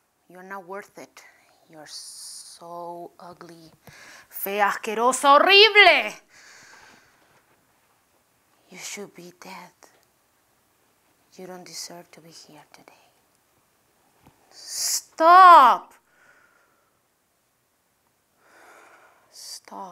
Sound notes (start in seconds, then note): 3.9 spanish